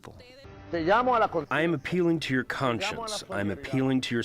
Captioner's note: through translator